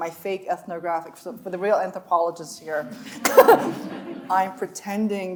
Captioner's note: chuckles